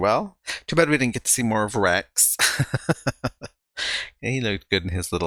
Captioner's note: chuckling